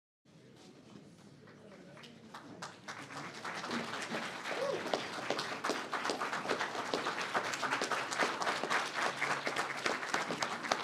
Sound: applause

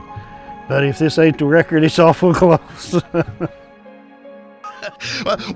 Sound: laughs

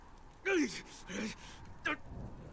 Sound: grunting

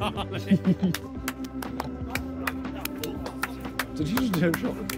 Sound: laughs; clapping

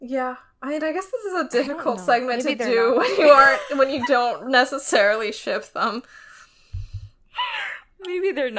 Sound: laughs

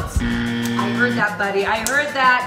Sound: buzzing

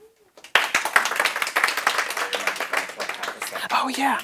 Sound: applause

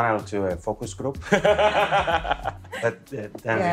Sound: laughs

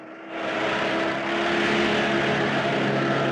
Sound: Jeep Approaching

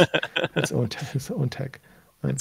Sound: laughing

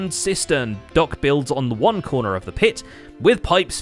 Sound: none

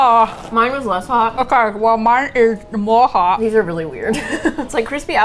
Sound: laughs

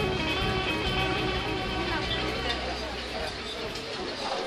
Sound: restaurant sounds

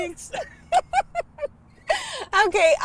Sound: laughs

